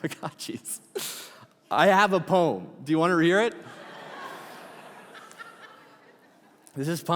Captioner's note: congregation laughing